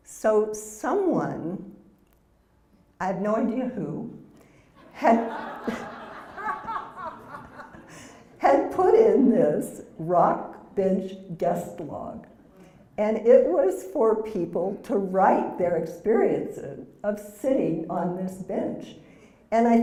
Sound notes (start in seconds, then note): 4.8 laugh